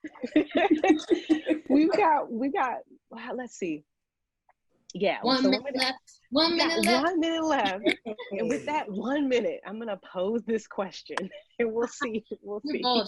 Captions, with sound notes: (laughing) - We've got, okay let's see, yeah, one minute left, one minute left, and with that one minute I'm gonna pose this question, we'll see-